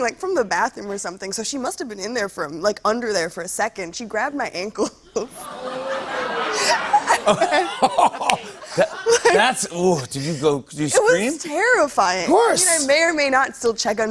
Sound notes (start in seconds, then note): 5.1 laughter; 5.2 audience ohs